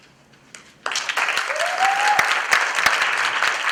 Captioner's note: applause